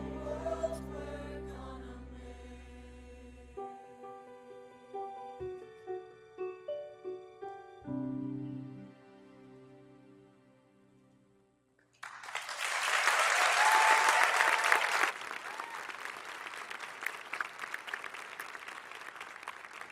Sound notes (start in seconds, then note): 11.9 audience applauding; 12.0 audience cheering